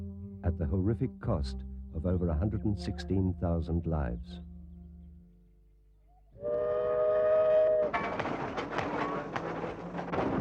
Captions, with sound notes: at the horrific cost of over 116,000 lives. (train whistle blows)